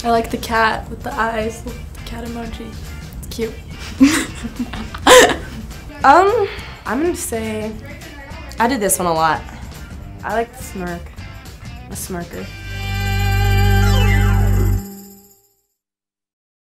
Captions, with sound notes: - I like the cat with the eyes, cat emoji, it's cute. - (chuckling) - I'm gonna say. - I do this one a lot. - I like the smirk. I'm a smirker. (upbeat music)